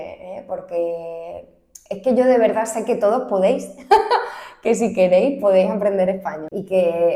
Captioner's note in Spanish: risas